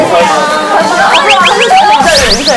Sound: swirling

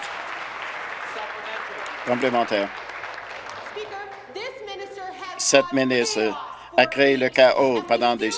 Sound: applause

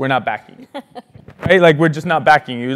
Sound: laugh

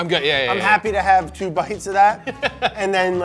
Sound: chuckles

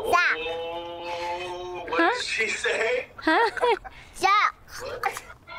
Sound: laughs

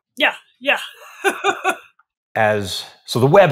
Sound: laughing

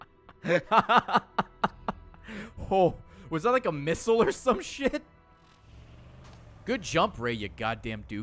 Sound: laughs

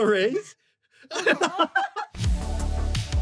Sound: laughter

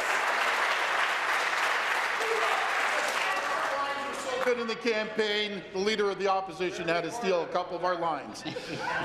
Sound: applause

